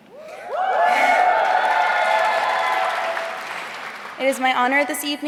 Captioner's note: audience cheering